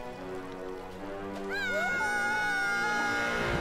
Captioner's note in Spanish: gritando